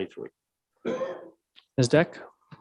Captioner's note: coughs